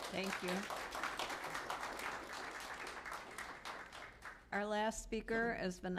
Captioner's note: applause